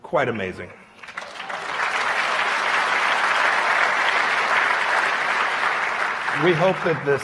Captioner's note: applause